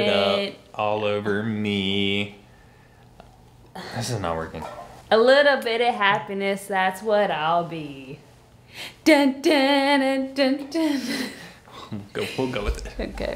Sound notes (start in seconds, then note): 9.4 humming; 10.8 laughing